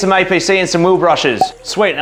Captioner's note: magic ding pops